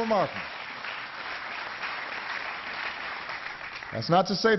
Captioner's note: applause